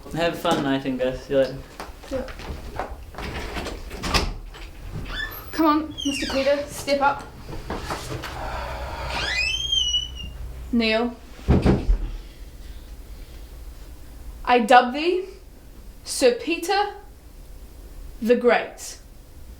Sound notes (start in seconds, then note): 2.6 door rattling, squeaking; 7.4 door groans; 8.3 sighs; 11.4 door thumps closed